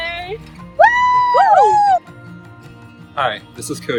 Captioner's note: cheering